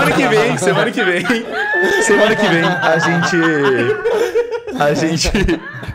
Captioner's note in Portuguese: risadas